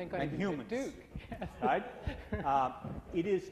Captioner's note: laughter